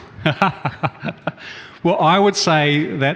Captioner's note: laughs